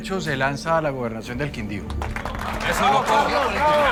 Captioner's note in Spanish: Aplausos